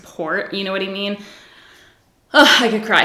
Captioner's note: sighs